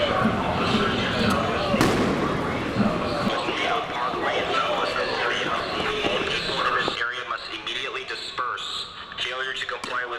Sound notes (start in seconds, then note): 1.7 explosions